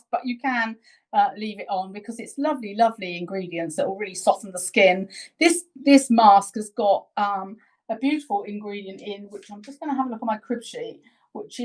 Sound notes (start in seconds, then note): none